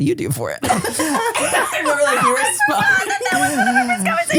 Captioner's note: everybody laughs